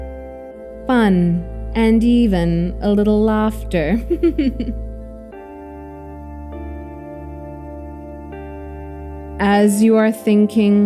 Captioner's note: chuckle and laugh a little